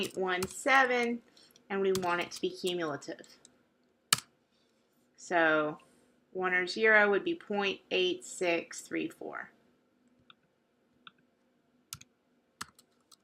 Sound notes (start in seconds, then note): 9.5 long pause